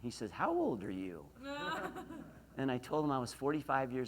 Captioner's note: laughs